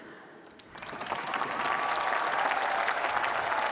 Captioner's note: applause